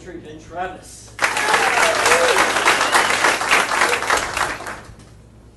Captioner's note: audience applauding